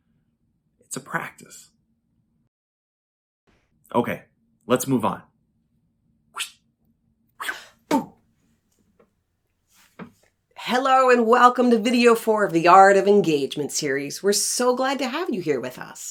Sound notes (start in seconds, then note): 5.7 sounds of getting, throwing, and catching the ball